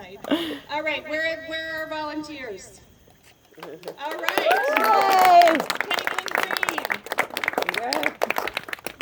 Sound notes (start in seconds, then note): 3.6 applause